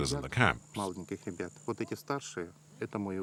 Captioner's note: Russian spoken audio